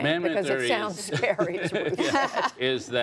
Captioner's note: laughter